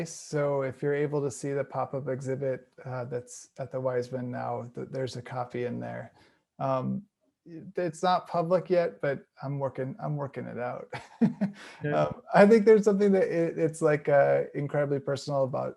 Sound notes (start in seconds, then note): 10.6 laughing